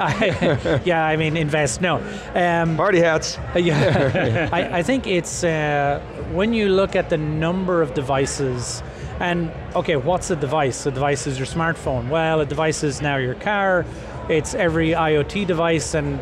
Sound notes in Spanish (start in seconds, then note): 3.6 risas